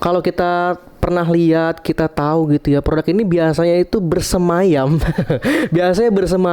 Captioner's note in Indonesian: tertawa